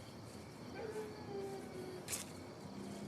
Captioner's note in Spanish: ladridos